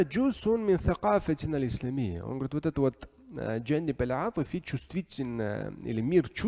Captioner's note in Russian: Говорит на арабском; говорит на арабском